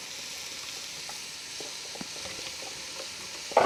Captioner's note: pot simmering